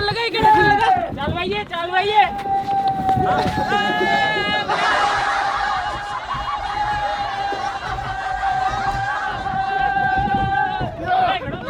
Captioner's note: screaming